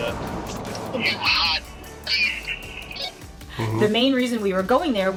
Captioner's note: radio off-mic; on radio off-mic